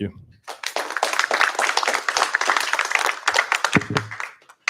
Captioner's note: applause